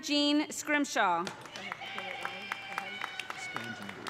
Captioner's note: audience applauding; audience cheering